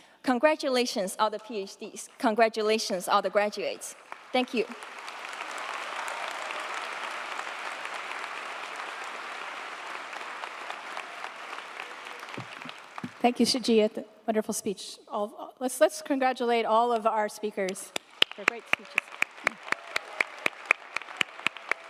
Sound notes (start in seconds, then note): 5.1 audience applauding; 17.9 audience applauding